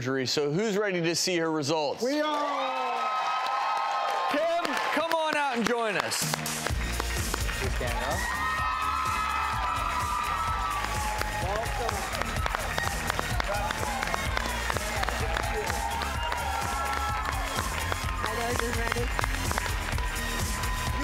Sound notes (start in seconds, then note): 2.6 applause and cheering; 6.8 upbeat music; 8.0 applause and cheering